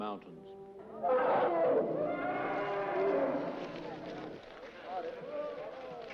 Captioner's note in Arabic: الفيلة تصرخ